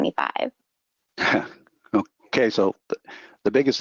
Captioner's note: chuckles